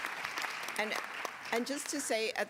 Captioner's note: applause